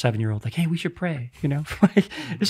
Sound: chuckles

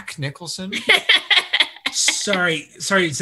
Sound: laughs

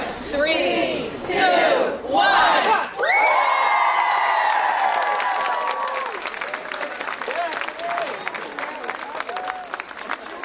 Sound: applause

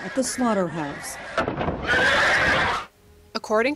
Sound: pigs squealing

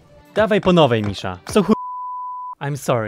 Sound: in some slavic language

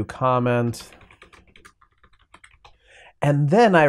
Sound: typing sounds

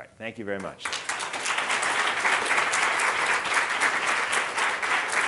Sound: audience clapping

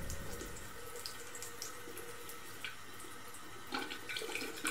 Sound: water trickling

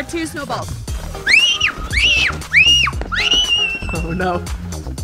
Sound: child screams

